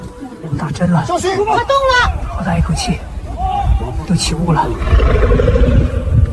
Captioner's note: Mandarin dialogue continues